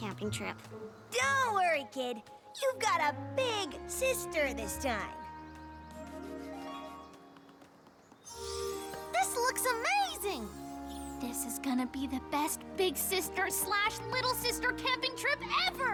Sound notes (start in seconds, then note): 8.3 shimmer!